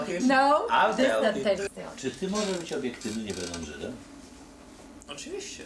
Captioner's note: speaking Polish